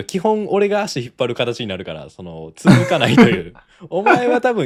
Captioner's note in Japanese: 笑い